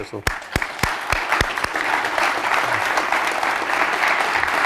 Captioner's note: applause